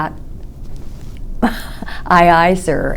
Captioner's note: laughs